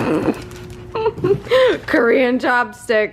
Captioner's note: laughing